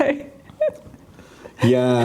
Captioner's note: laughing